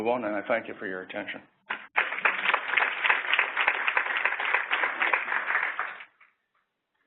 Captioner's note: applause